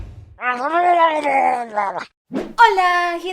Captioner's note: Murloc sounds